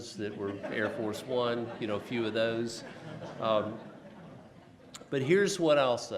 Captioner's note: laughs